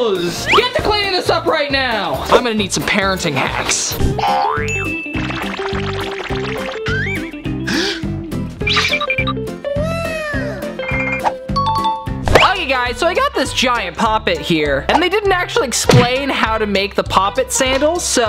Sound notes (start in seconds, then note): 4.1 upbeat music begins; 4.2 boing; 7.5 inhales